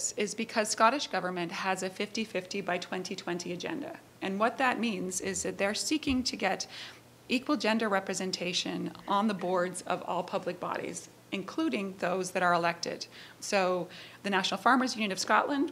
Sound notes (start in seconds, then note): none